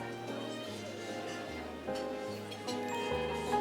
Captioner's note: dishes and utensils clinking